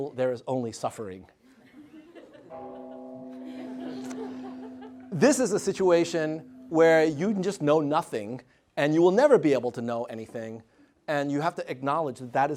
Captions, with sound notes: There is only suffering. [BELL TOLLING] [LAUGHTER] This is a situation where you can just know nothing, and you will never be able to know anything, and you have to acknowledge that that